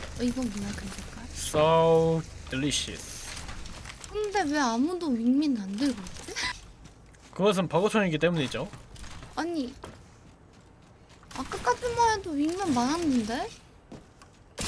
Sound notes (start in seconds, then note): 5.8 laughs